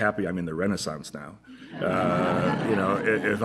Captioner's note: laughter